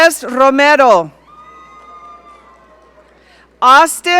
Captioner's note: audience cheering